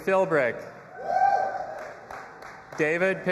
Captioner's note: audience applauding and cheering